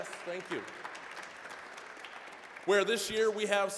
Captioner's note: applause